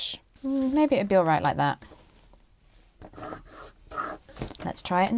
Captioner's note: pencil scratches